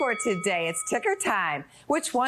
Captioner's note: bell dings